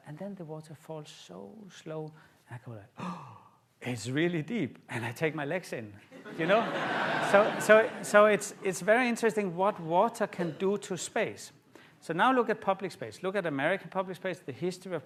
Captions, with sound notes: and then the water falls so slow. And I go, (GASPS) it's really deep. And I take my legs in. [LAUGHTER] You know, so it's very interesting what water can do to space. So now, look at public space. Look at American public space, the history